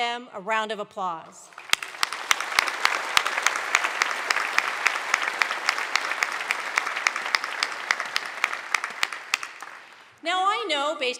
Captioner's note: applause